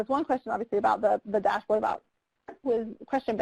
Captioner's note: microphone cutting out